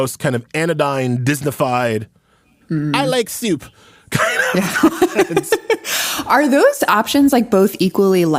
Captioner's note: laughs